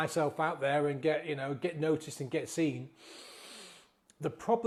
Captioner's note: inhales loudly